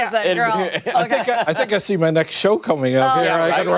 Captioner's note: laughter